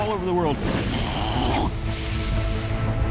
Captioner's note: imitating combustion